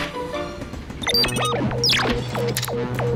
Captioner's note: beeping